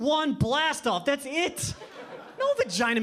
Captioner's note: audience laughing